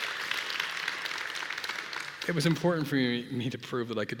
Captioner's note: applause